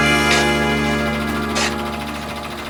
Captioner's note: whirring